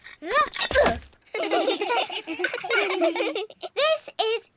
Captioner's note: all giggle